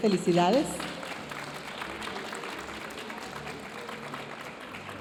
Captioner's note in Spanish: aplausos de la audiencia